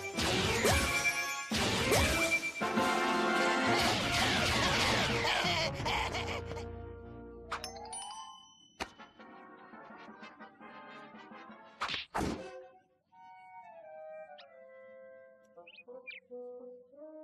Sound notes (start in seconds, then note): 4.2 laughing maniacally